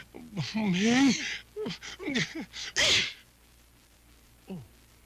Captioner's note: grunts